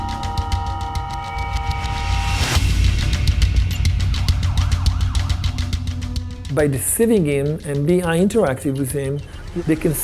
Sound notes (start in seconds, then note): 4.4 alarm wailing